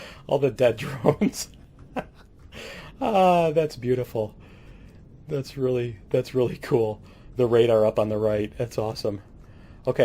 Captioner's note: laughs; laughs